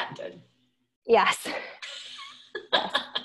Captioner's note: laughing